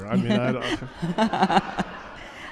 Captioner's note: laughter